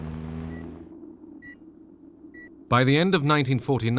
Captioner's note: beeping